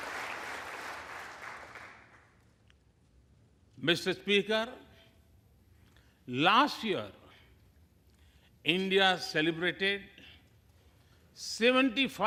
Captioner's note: applause